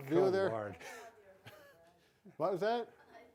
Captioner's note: both laughing